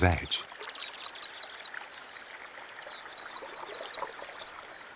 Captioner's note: birds singing